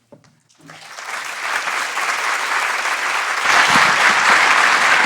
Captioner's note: audience applauds